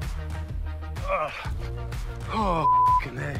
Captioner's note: grunts; beep